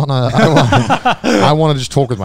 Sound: co-hosts laugh

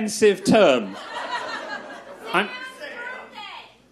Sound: crowd laughs

